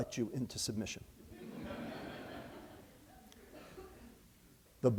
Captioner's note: laughter